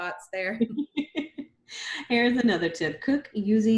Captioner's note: laughs